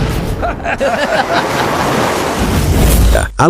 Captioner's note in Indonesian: tertawa